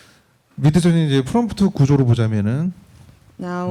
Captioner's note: speaking korean